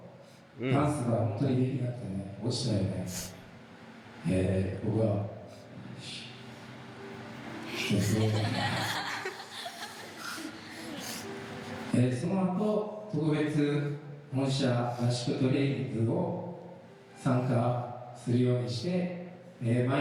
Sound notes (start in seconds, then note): 0.2 laughing; 10.0 speaking in foreign language